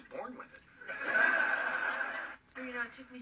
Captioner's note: canned generic laughter